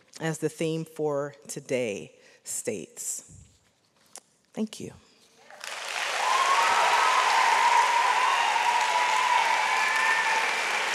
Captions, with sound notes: as the theme for today states. Thank you. (audience cheers)